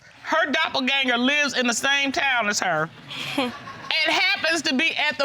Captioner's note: scoffs